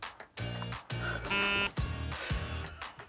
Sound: phone buzz

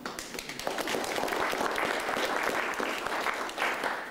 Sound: applause

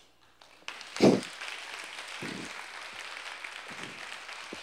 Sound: applause

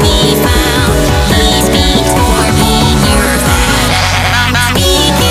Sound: clown nose squeaked

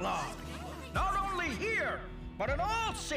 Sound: crowd murmuring

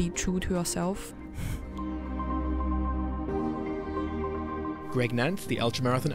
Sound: voiceover

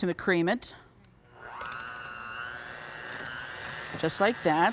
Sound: mixer whirring

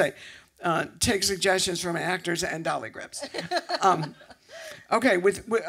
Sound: laughter

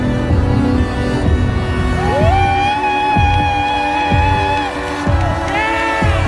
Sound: intense cheering

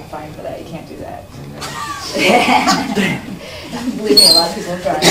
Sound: laughing

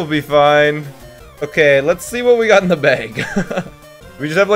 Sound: laughs

